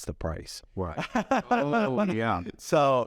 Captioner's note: laughs